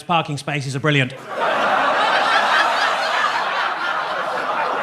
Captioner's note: audience laughs